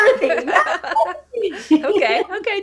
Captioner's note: laughter